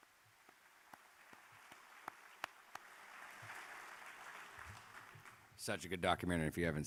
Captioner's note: applause